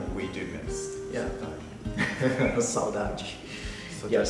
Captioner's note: speaking Portuguese